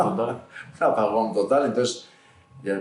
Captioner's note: risas